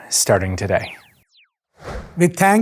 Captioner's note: logo beeping and whooshing